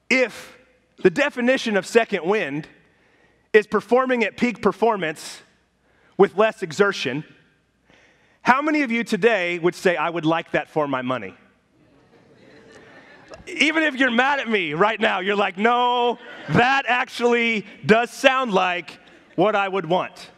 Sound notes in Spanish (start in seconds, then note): 11.8 risas de la congregación